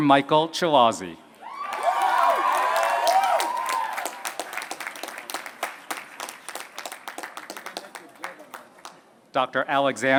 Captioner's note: applause